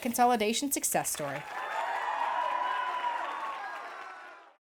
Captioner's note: cheering and applause